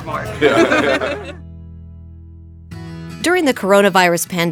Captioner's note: people laughing